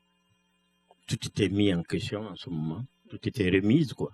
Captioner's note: speaking french